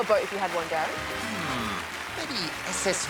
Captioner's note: applause continues